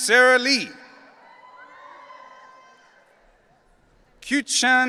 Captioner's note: audience cheering